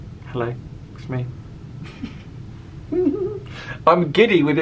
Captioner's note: giggles